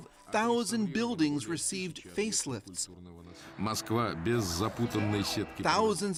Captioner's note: speaking russian